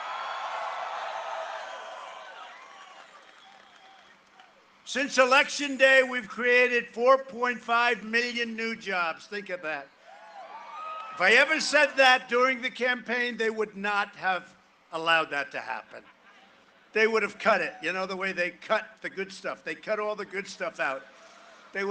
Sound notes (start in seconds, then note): 10.0 cheering and applause